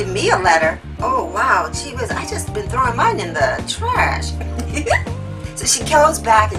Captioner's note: laugh